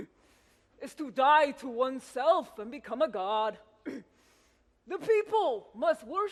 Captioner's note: clears throat; clears throat